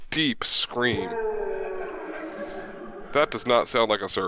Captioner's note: distant groaning